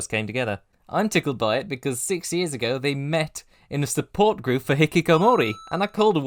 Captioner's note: ding!